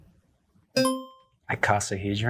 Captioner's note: buzzer rings